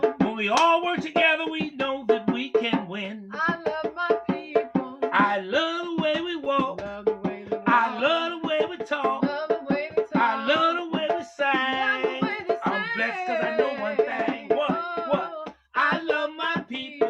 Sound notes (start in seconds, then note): 3.3 singing; 5.1 echoing